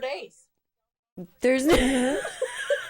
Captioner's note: laughs